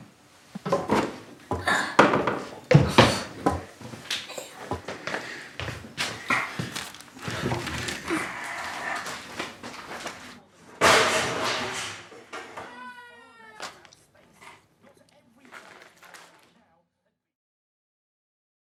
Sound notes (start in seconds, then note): 1.6 child groans; 10.8 things crashing down; 12.6 child crying